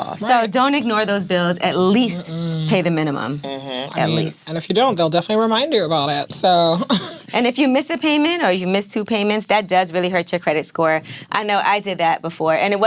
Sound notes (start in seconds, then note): 7.0 chuckles